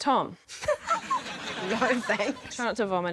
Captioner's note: laughs